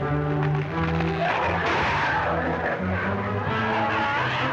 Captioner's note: growling